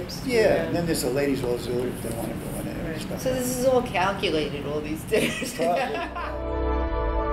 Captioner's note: all laugh